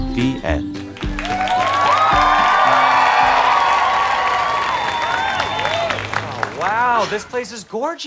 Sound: audience cheering

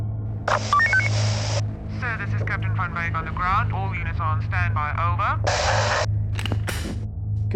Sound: police radio; gun cock

